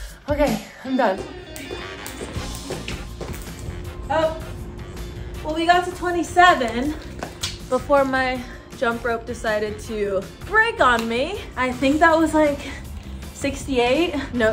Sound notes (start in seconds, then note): 1.7 rope hitting ground; 1.7 upbeat music